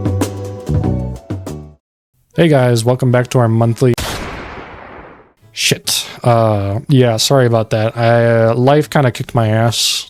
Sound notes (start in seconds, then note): 4.0 gunshot rings out